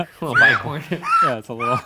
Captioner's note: laughing